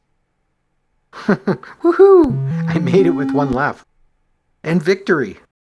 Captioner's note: chuckles